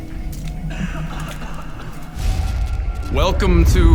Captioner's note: coughs